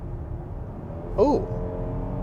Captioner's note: car engine revving